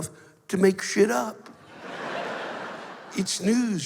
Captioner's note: laughter